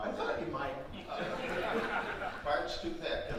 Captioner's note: audience laughing